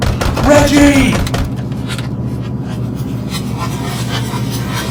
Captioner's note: door pounding